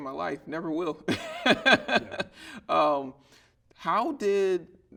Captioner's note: laughing